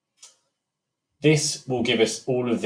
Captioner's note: mouse clicking